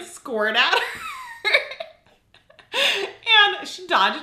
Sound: laughing

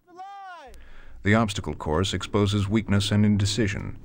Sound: voiceover

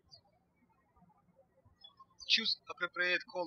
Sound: birds chirping

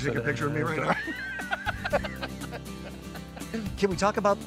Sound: both laugh

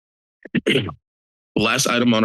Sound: clears throat

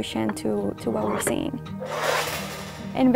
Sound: sound of ball rolling

